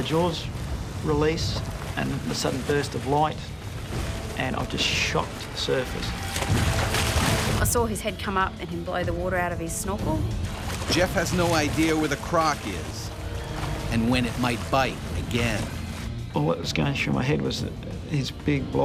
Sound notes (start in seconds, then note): 11.6 voiceover